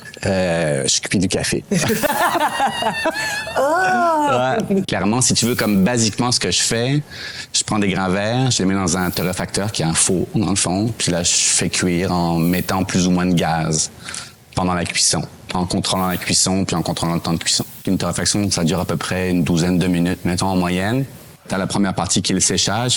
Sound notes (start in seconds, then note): 3.5 laughs